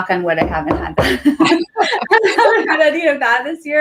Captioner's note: both laugh